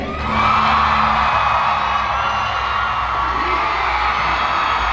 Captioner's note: audience cheering